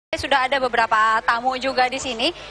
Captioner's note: non-english speech